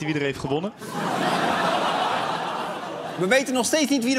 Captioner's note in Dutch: gelach